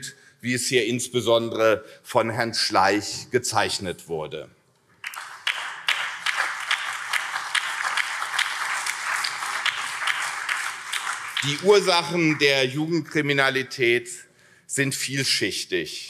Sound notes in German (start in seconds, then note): 5.0 Beifall CDU, SPD und BÜNDNIS 90/DIE GRÜNEN